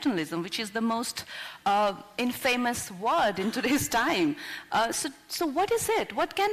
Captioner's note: laughs